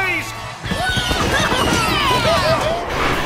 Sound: cheering

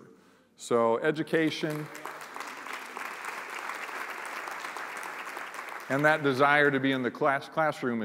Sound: applause

